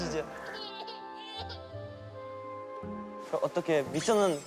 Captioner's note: cries